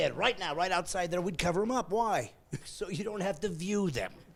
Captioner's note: laughing